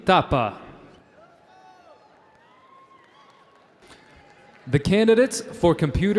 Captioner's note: audience cheering